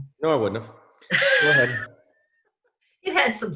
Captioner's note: laughs